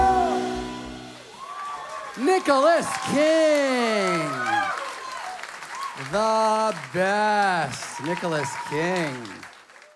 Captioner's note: applause